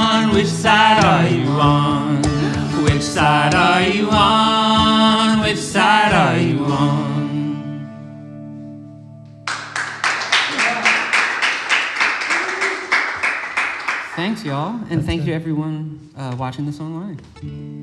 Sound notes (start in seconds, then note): 9.4 audience claps